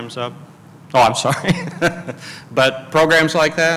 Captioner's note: laughs